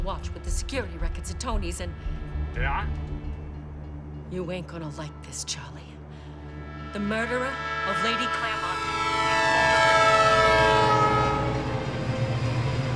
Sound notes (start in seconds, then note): 2.6 on phone; 9.0 train horn silences the dialog